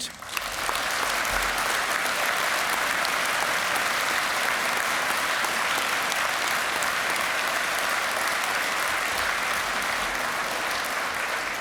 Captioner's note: applause